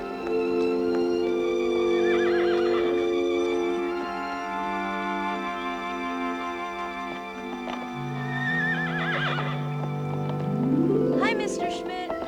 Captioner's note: horse whinnies